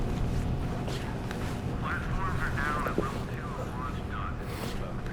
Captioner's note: men talking on radio